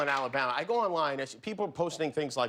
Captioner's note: applause